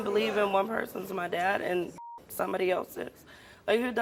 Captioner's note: beep